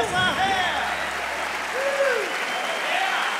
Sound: cheers and applause

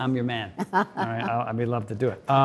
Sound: Cynthia laughs

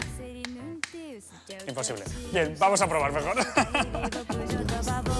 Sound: laughs

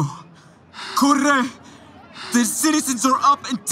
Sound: crowd clamor

